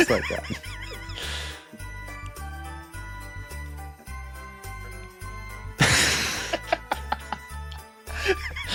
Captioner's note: laughing